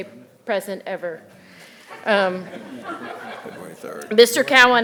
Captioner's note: audience laughing